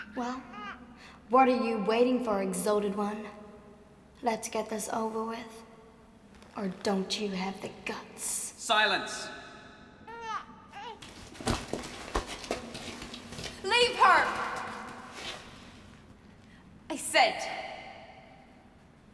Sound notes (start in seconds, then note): none